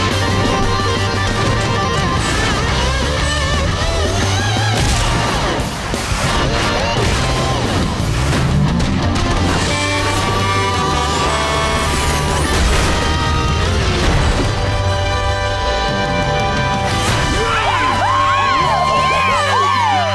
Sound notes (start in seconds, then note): 9.6 truck horn honking; 17.1 cheering